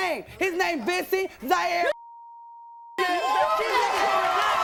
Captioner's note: beep